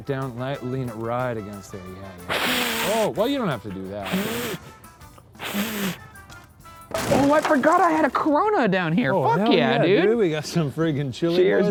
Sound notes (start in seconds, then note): 2.2 blowing on the fire; 5.4 huffing